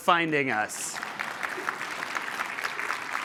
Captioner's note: applause